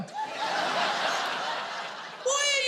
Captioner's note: audience laughing